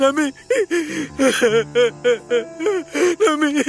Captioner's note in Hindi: रोना